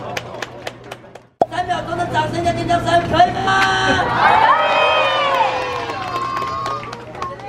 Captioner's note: three seconds of cheering and applause!